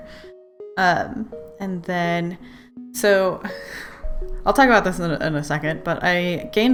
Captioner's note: sigh